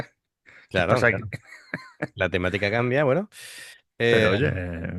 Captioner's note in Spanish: risas